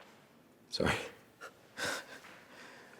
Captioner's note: laughs